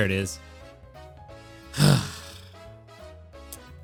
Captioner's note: sighs